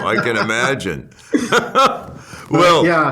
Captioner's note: laughs